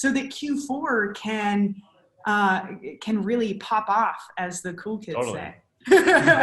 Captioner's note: laughs